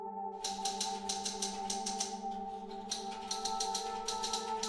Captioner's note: typewriter keys clacking